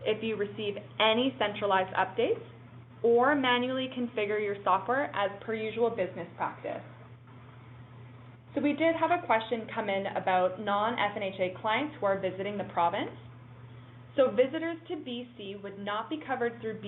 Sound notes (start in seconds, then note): none